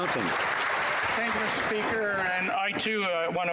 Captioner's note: cheering and Applause